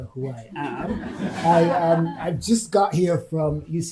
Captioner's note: audience laughing